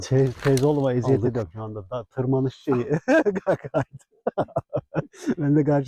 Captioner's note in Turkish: kahkaha